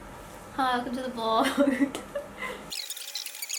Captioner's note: laughs